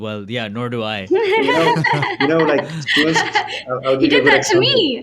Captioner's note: laughing